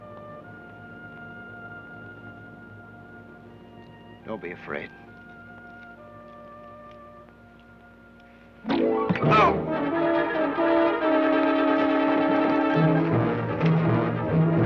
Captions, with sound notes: - Don't be afraid. (thud) (Sheriff groans) (dramatic orchestral music)